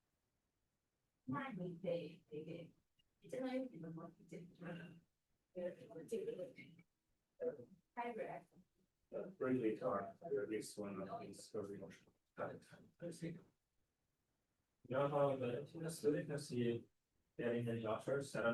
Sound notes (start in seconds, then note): 4.1 speaking Chinese